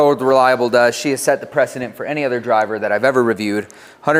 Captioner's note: none